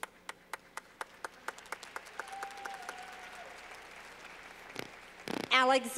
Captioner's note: clapping